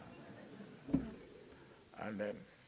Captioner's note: laughing